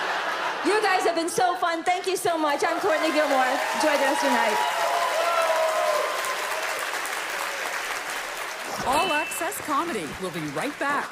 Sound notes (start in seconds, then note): 5.3 audience cheers